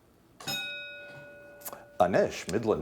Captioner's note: bell ringing